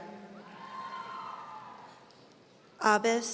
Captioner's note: audience cheering